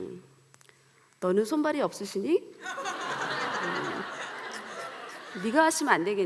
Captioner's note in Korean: 웃음